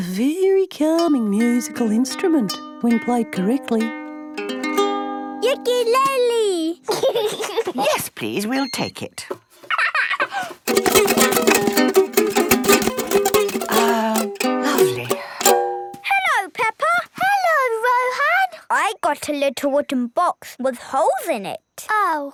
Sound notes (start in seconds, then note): 4.9 gentle strumming; 6.8 giggling; 9.6 giggles; 10.6 vigorous, unpleasant strumming